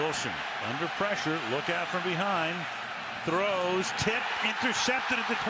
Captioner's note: cheering